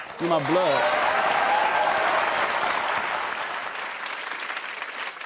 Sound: audience cheers

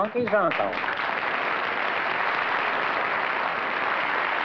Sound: applause

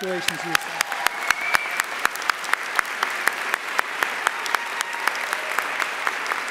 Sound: audience applauding and cheering

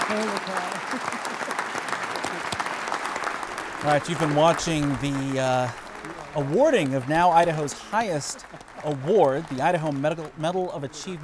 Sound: applause

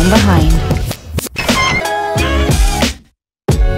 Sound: squeaking sound

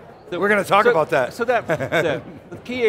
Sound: laughs

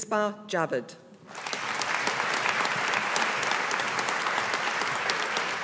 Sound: audience applauding

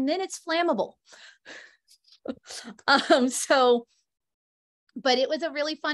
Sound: laughter

